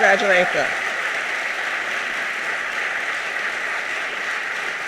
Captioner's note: audience applauding